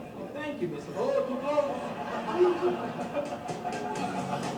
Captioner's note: laughter